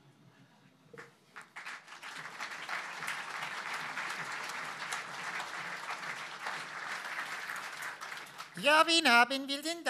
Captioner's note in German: Applaus